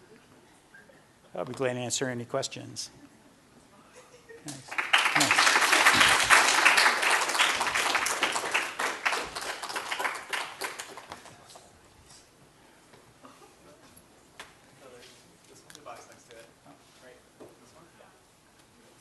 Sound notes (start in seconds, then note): 4.4 applause